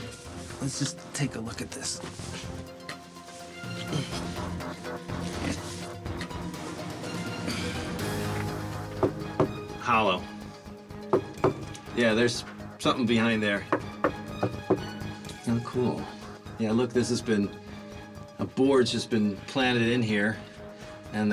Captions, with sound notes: Let's just take a look at this. [knock] Hollow. [knock] Yeah, there's something behind there. How cool. Yeah, look, this has been-- a board just been planted in here and the concrete